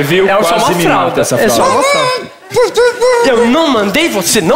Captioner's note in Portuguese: voz abafada